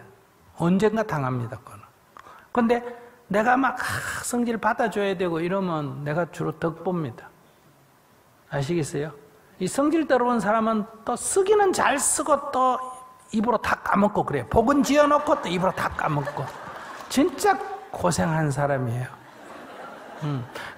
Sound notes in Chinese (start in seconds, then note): 14.8 听众 笑; 19.2 听众 笑